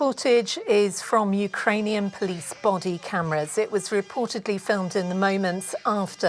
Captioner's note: crying